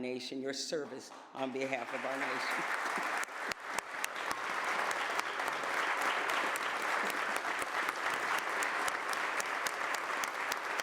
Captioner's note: applause